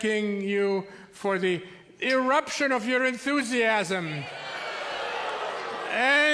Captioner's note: audience oohs